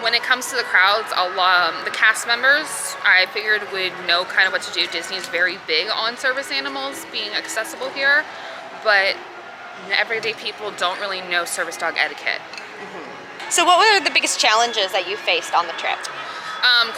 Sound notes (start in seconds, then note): none